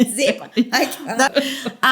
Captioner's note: laughter